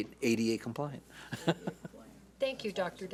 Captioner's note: laughs